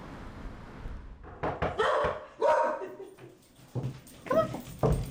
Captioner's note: dog barking